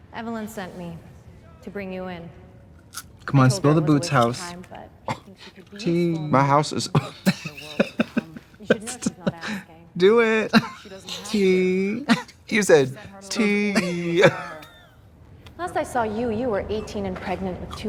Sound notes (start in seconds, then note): 6.9 both laughing